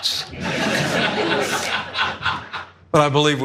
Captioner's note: laugh